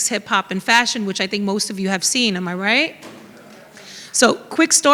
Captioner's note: audience murmurs